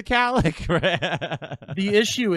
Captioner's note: man laughs